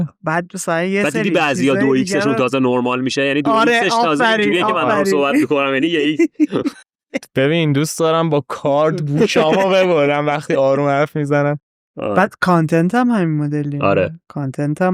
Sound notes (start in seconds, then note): 6.6 laughs